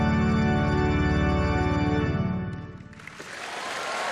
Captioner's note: cheering